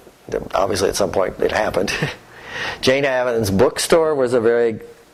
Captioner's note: laughter